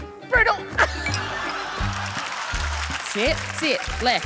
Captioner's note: laughter, applause